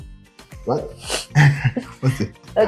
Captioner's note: laughter